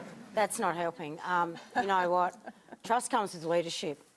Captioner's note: laughter